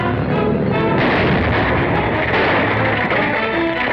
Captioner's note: explosion